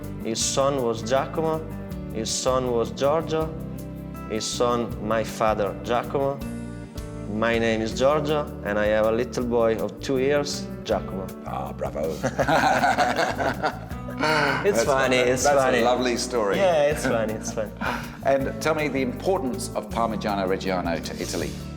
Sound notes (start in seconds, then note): 12.2 laughs